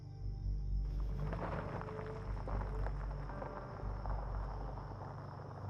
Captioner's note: poignant music continuing to play; car engine roaring